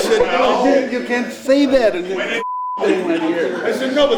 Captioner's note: beep